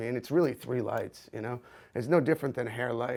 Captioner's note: none